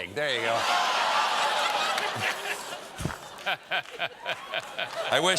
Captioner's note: laughter